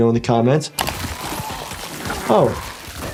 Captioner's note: body tearing